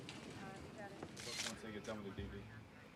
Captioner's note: camera shutter clicking